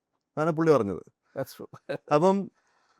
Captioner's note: laughs